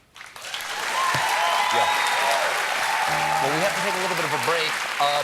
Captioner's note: applause